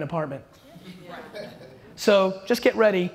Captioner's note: audience laughter